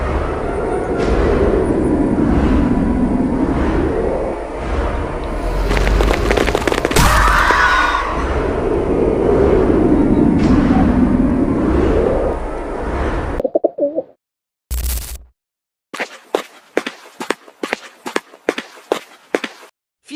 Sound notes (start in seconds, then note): 0.1 tornado winds; 4.4 footsteps; 8.2 tornado winds; 16.0 slow footsteps